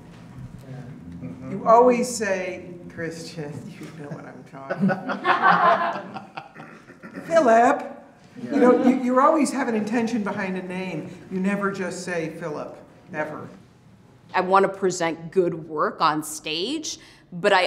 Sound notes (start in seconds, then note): 4.6 laughter